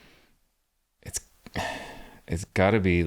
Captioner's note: sighs